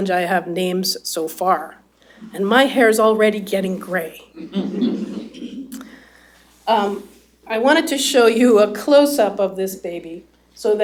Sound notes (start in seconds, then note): 4.4 laughter